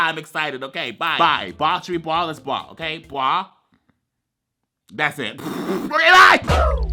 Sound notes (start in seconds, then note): 5.4 blows raspberry